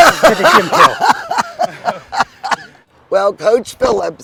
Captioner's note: laughs